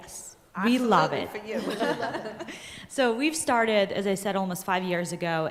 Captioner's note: laughter